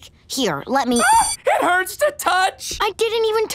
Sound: screaming

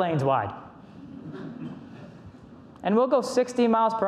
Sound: audience laughs

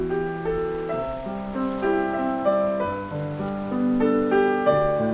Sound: waves crashing

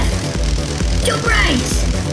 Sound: electricity crackling

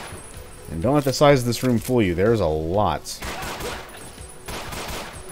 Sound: Glock pew pewing

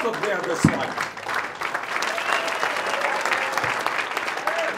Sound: applause

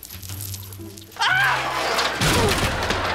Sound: screaming

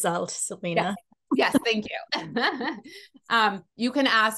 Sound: laughs

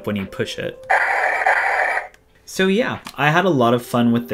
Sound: firing noises

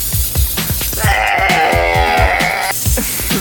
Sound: wheeze

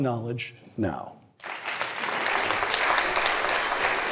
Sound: applause

